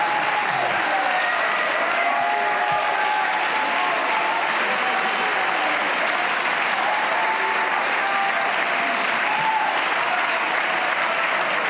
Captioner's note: cheers and applause